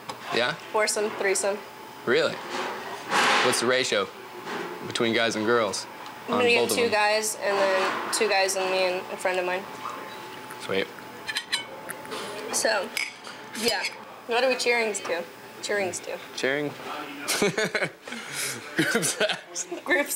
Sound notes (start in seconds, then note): 17.3 laughs